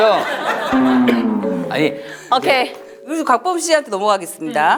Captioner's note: coughs